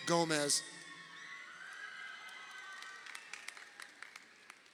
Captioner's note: crowd cheering